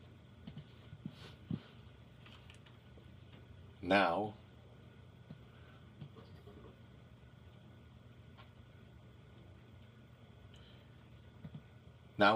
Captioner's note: silence